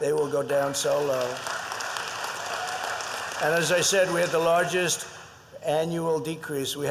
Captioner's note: applause